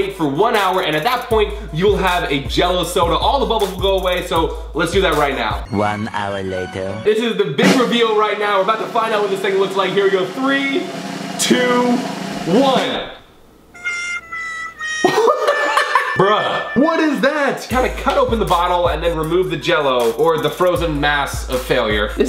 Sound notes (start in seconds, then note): 13.8 disappointed tone; 14.6 laughs